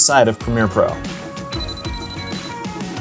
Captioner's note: beeps